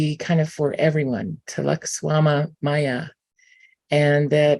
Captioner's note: non-english